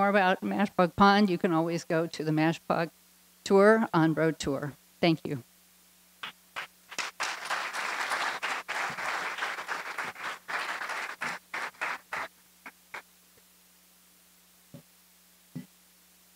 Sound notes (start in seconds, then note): 6.5 applause